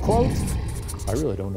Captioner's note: animal growling; marker scratching